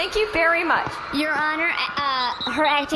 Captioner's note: audience cheers; sports whistle